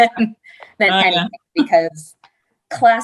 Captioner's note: chuckles